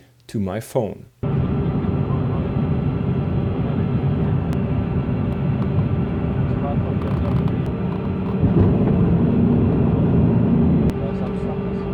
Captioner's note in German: Flugzeuggeräusche